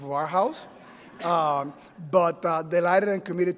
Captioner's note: audience laughing